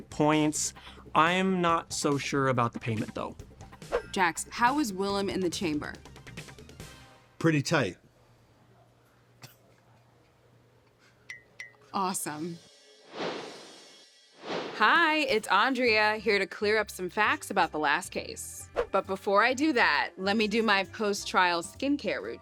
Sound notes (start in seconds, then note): 10.3 eyelashes dinging; 12.5 logo air swoosh